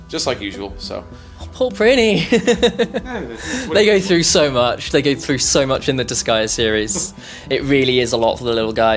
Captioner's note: laughs